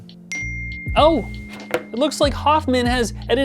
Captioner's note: phone beeping